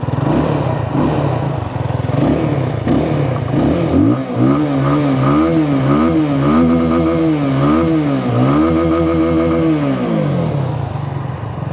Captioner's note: engine revving sounds